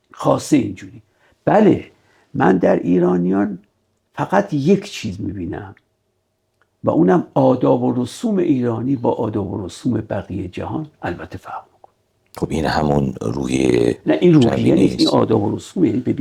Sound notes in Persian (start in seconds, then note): 13.4 صدای خرناس